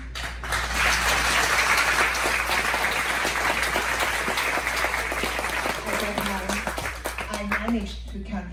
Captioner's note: claps with respect